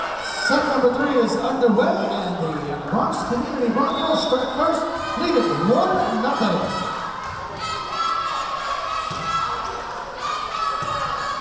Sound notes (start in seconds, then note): 7.1 chanting